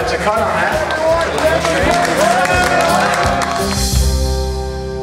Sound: cheering

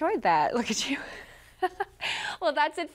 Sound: laughing

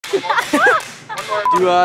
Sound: laughing

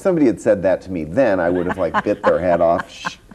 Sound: laughs

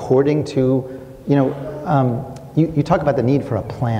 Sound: clicks tongue

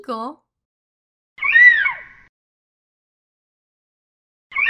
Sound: eagle screeching

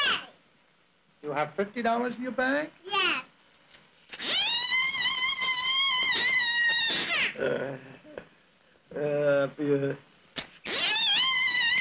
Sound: little girl's high pitched whining

